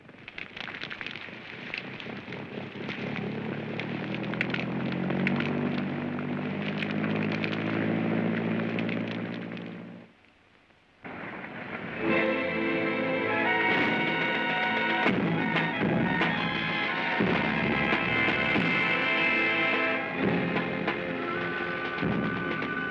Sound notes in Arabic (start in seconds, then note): 2.5 تشتعل النيران; 2.8 تبتعد الطائرة بصوت هدير; 12.0 موسيقى درامية مشؤومة; 12.0 إطلاق المدفعية; 22.7 موسيقى درامية مشؤومة